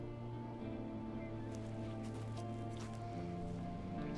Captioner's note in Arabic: خطوات بطيئة